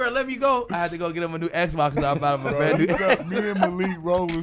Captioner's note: laughing